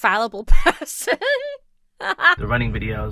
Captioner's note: laughs